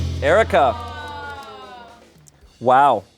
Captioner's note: deflated music; crew exclaims